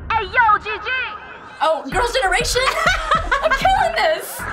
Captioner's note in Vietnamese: cười to hơn